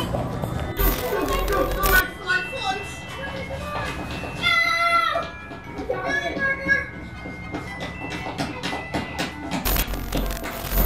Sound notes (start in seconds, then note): 0.7 christmas music playing; 4.4 children yelling